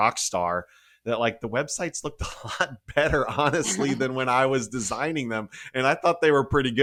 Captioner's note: laughed